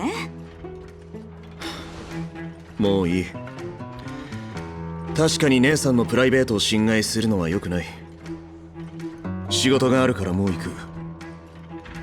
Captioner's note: sigh